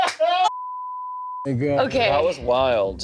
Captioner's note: beep